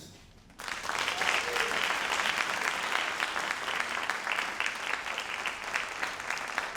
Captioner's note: all applauding